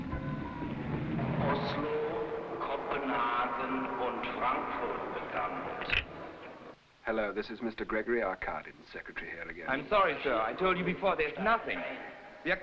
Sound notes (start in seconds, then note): 1.4 man on loudspeaker speaking foreign language